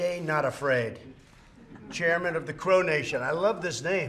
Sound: laughter

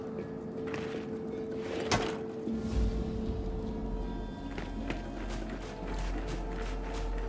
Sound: footsteps

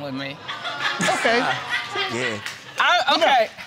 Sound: audience laughing

